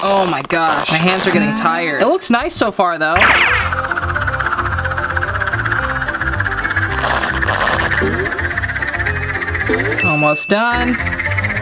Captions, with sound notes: Oh my gosh, my hands are getting tired. It looks nice so far though! (fast music) (whirring) (dinging) Almost done.